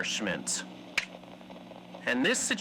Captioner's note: snap fx